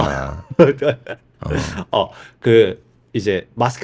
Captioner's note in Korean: 웃음